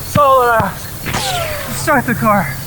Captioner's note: footsteps thumping; gunshot cracking; bullets whizzing